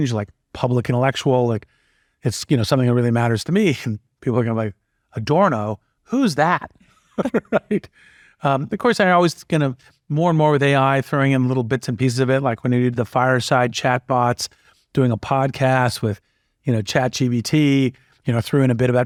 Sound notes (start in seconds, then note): 7.0 laugh